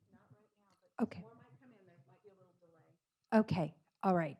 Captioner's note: speaking faintly